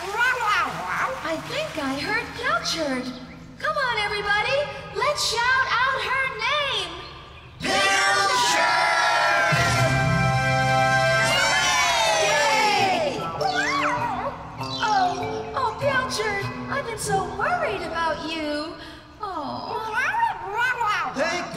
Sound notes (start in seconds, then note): 9.5 drumroll; 11.4 cheering